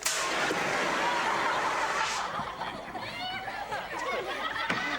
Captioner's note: audience laughs